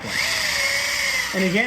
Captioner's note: drill whirring